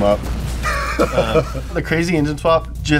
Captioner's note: laughs